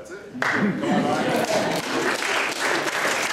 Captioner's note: applause